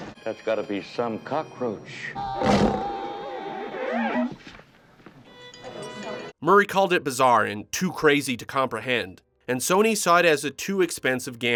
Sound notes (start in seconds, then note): 2.2 screaming